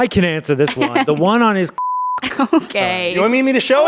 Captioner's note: beep